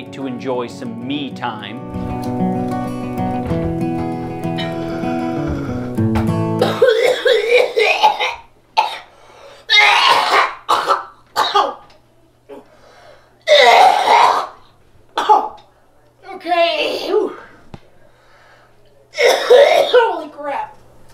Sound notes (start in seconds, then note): 1.8 guitar music; 6.6 grotesque coughing; 9.7 practically gagging; 13.4 suffocating from bong